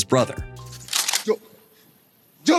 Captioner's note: gun cocks; speaking indonesian